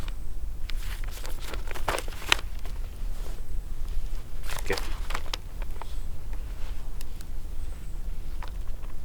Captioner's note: pages rustling